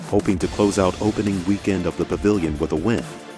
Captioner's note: voiceover